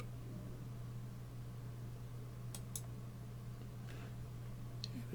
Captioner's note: clicking